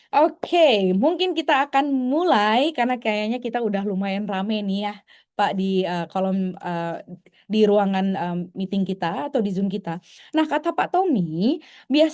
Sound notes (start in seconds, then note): none